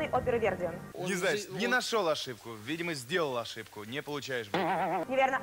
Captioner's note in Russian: звук ошибки